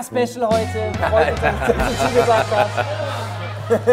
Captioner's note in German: Boing